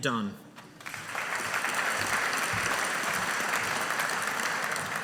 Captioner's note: audience applauding